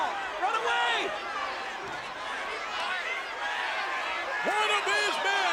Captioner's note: applause